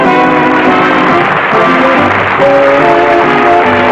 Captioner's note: applause